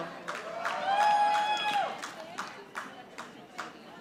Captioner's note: audience applauding